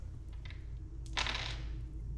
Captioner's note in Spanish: Tirada de dados